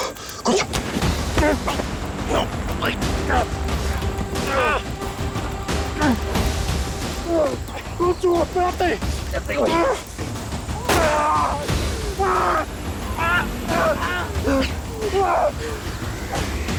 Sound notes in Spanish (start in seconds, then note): 6.9 Sonidos del forcejeo; 10.8 Disparo; 12.6 Gritos